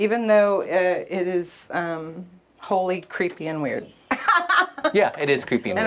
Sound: laughs

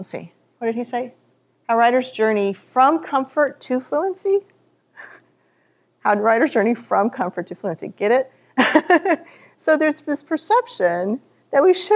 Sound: laughs

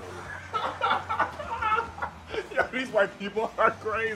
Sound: laughing

